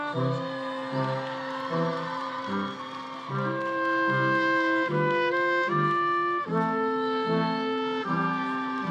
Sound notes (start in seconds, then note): 2.2 audience applauding; 2.2 audience cheering